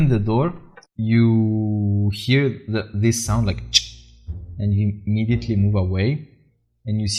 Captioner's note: chk